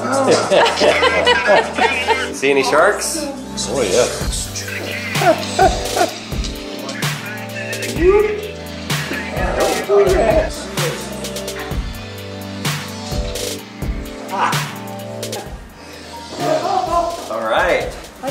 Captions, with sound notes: See any sharks? - Oh yes. (laughs) - All right.